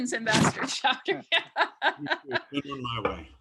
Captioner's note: laughs